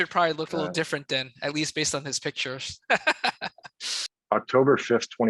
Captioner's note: laughs